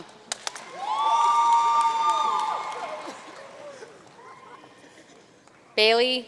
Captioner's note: audience cheering and applauding